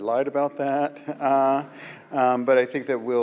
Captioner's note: audience laughs